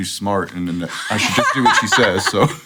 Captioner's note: laughter